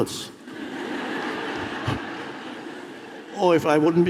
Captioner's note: audience laughs